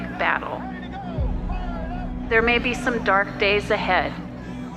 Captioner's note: protesters chanting